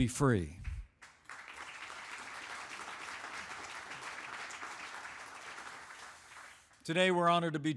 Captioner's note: applause